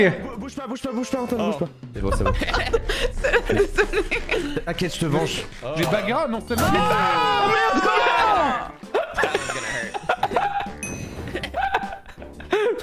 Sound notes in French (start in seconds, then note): 1.9 en riant; 7.7 rires